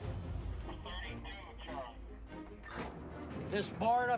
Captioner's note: radio chatter